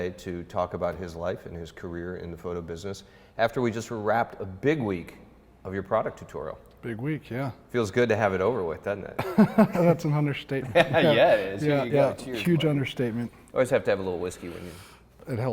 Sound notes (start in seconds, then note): 9.2 laughs